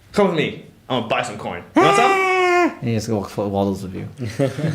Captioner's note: happy whoop